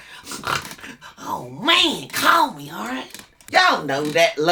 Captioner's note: snicker